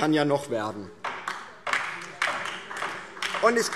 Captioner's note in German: Beifall DIE LINKE